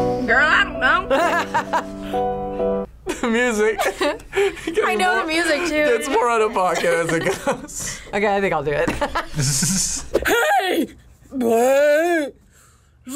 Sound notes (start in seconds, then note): 1.1 laughs; 3.1 laughs; 8.8 both laugh